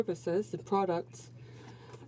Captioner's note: speaking French